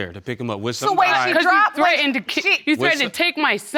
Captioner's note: all arguing